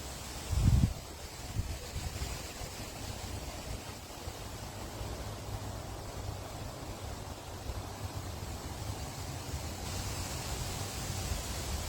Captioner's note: leaves rustling in the wind